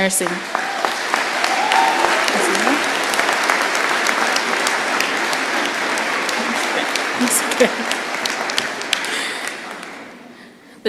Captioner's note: applause